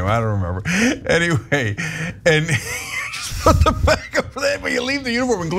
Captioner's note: laugh